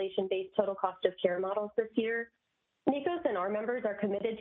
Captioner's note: audio interference